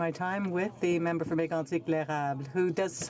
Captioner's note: speaking French